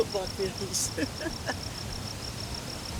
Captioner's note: laughs